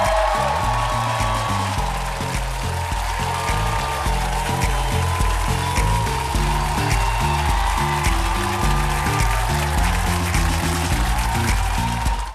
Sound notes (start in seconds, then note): 0.3 applause; 5.7 applause; 9.6 audience applauding